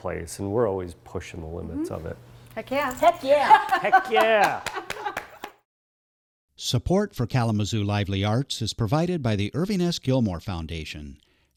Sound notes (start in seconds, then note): 4.0 claps; 6.3 voiceover